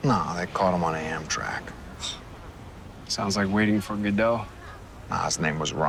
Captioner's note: exhales